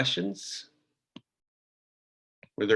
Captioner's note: silence